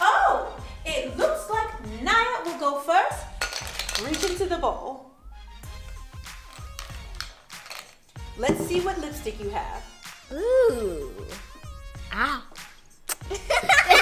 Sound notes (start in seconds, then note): 3.7 clanking; 12.5 smooching; 13.3 laughing